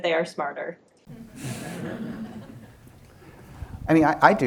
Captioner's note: laughter